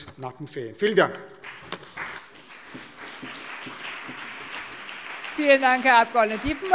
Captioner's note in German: Beifall BÜNDNIS 90/DIE GRÜNEN und CDU